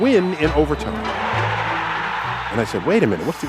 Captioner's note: crowd cheering